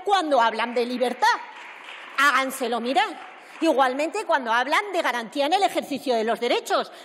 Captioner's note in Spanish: Aplausos